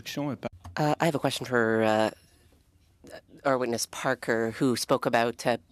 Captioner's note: speaking French